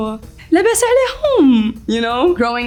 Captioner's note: speaks foreign language